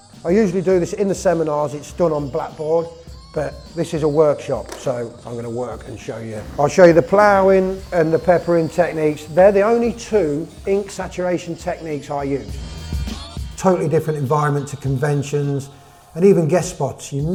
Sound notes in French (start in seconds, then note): 6.2 ploughing